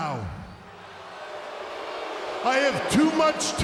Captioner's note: crowd boos